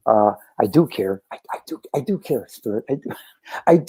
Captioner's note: whispers